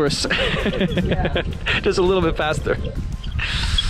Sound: laughing

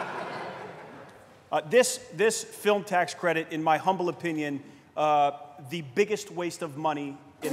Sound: laughter

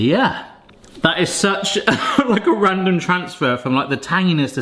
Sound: laughing

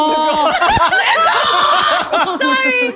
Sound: laughing

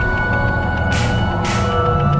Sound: balloon pops

